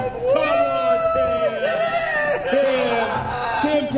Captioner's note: hooting